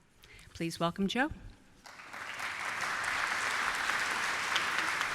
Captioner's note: applause